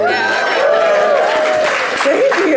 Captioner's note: audience cheering